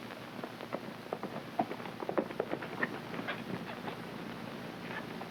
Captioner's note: hooves clopping